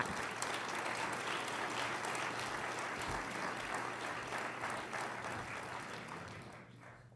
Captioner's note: applause